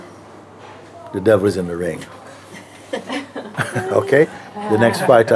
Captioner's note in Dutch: gelach